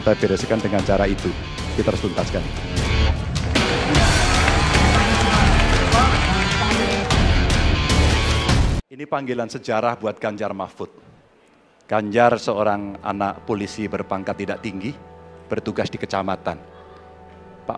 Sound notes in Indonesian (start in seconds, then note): 3.4 tepuk tangan